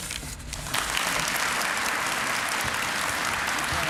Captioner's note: applause